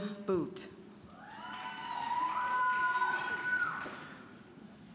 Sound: scattered cheering

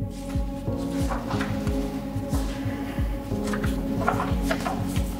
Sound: papers rustle

